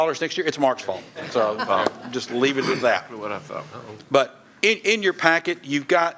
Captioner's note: laughter